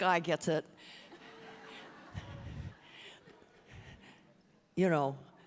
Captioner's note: audience laughing